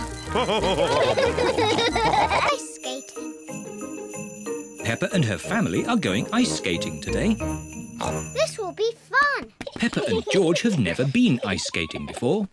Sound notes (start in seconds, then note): 0.3 all laugh; 7.4 oinks